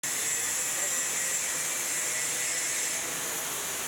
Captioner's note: machine whirring